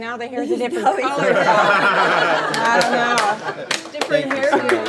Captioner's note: laughs